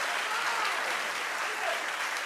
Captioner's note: audience applauding